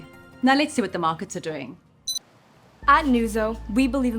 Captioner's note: remote beeps